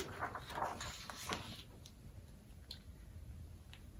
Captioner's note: papers rustling